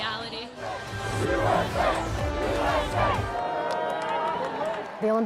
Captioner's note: crowd chanting